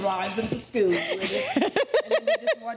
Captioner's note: laughs